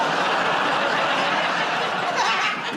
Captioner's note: laughter